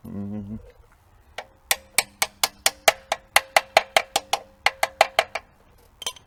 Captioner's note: banging noise